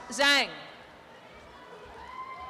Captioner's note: applause and cheering